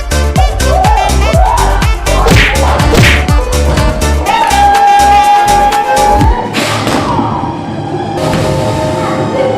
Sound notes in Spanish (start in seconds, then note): 5.3 grita